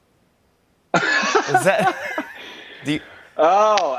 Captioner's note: laughs